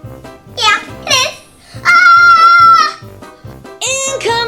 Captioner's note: girl shouts